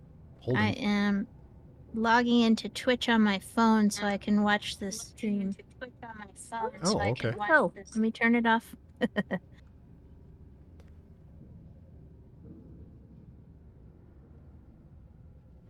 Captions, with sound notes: Hold it. I am logging into Twitch on my phone so I can watch this stream. Oh, okay. Oh, let me turn it off. [chuckles] [chuckles]